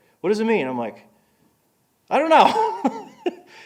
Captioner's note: laughing